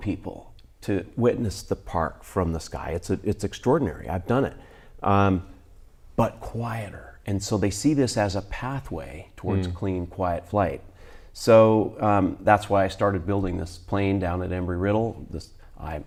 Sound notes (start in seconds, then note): none